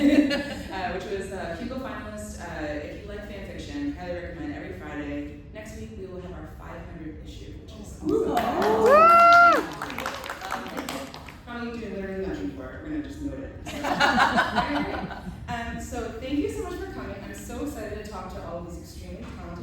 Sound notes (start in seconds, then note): 8.1 cheering; 13.6 laughter